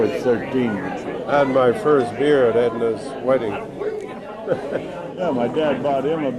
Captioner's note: laughs